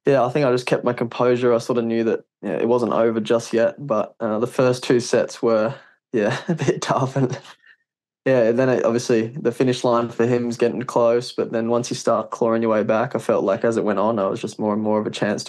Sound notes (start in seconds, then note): 6.2 laughs